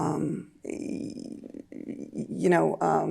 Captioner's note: stammering